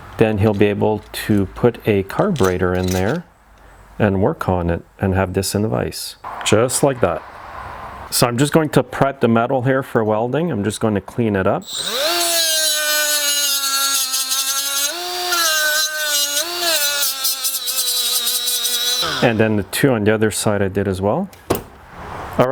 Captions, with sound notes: Then he'll be able to put a carburetor in there and work on it, and have this in the vise. Just like that. So I'm just going to prep the metal here for welding. I'm just going to clean it up. (grinding whining) And then the two on the other side, I did as well.